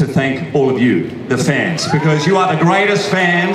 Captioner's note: audience cheers